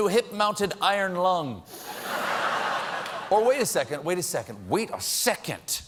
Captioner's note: laughter